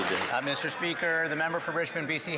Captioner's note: applause